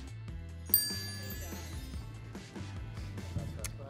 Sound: bell dings

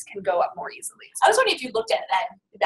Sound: voiceover

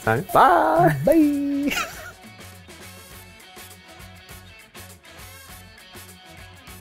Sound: chuckles

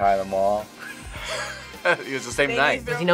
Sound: both laugh

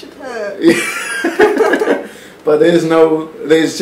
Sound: giggles

